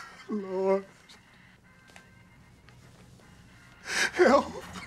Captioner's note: crying